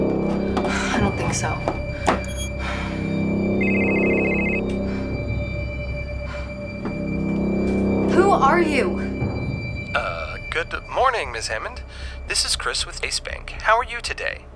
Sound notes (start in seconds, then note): 3.4 phone ringing